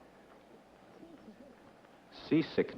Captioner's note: whispered conversation